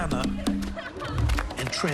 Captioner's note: boys laughing